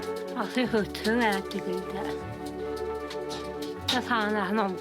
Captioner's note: foreign spoken audio